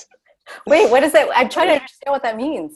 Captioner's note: all laugh